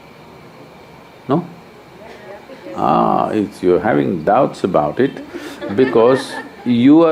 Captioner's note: laughter